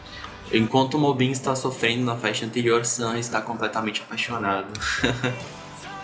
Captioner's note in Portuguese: risos